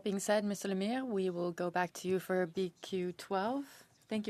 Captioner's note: speaking French